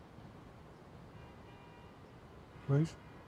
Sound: car horn in distance

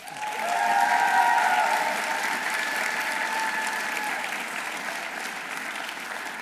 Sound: audience applauding; audience cheering

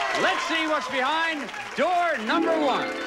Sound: audience applauding

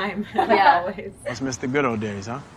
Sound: all laugh

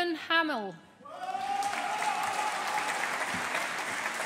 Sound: audience applauding

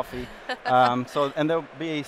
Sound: laughs

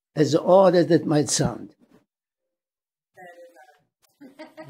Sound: laughing

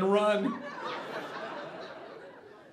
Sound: audience laughing

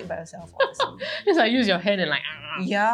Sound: animal noises

